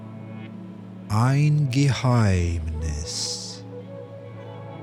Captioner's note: german